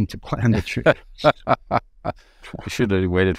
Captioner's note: laughing